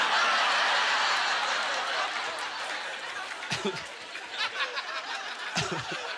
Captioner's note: audience laughter